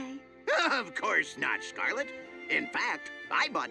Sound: chuckling

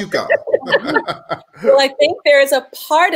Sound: all laughing

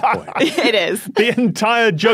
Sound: laughs

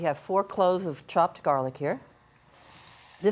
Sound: none

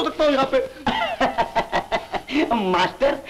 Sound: laughing

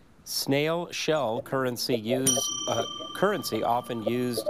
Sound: bell dings

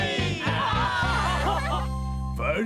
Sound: all laughing

